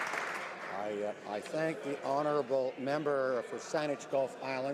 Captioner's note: some Applause